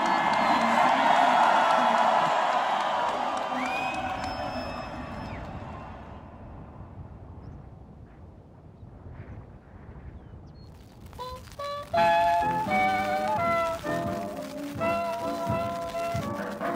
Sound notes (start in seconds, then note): 7.6 wind hissing; 10.8 scratching record